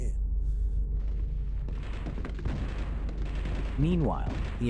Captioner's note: gunfire rattling